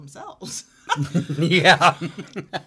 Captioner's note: laughing